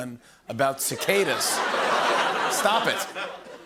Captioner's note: laughter